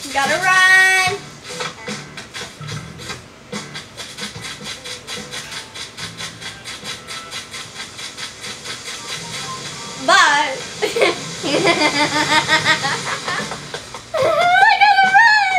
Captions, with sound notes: - Gotta run! (footsteps) Bye! (assistant giggles) Oh, I gotta run!